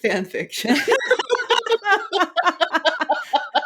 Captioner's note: both laughing